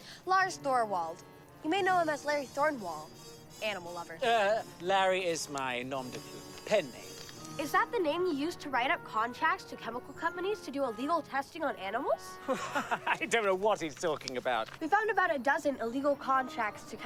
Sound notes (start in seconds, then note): 12.4 laughing